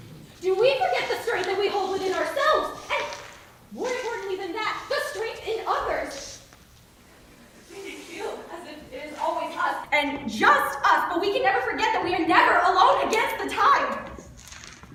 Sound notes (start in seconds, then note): none